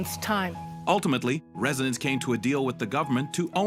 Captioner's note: voiceover